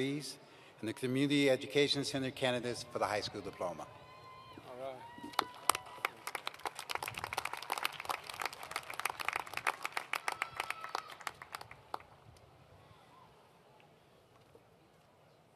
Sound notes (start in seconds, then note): 5.3 applause